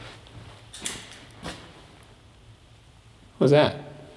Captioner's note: object clatters